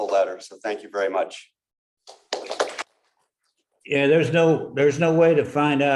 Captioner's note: applause